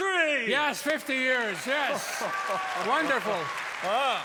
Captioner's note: cheers and applause